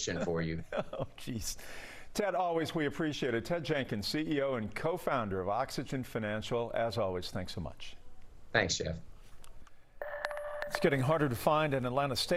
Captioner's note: laughter